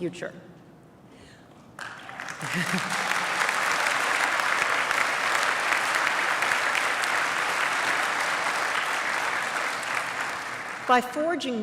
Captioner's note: applause